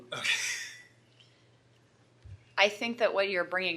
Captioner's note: laughing